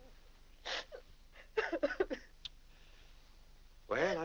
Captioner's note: weeping